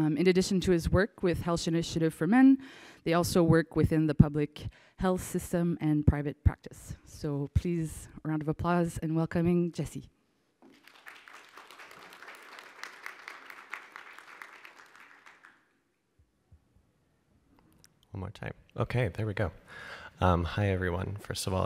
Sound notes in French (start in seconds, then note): 10.6 applaudissements